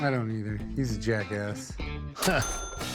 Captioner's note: laughs